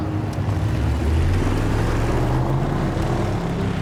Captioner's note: engines roaring